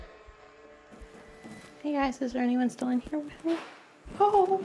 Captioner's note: shuffling